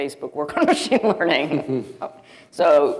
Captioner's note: chuckling